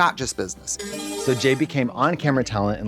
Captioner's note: bright chime